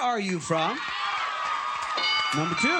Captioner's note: ding